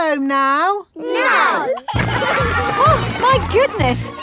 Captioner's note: giggling